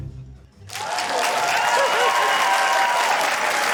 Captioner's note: cheering, applause